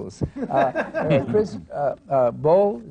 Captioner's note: laughter